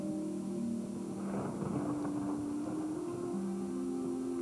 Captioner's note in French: Tonnerre